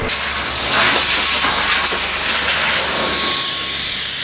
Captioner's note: air blowing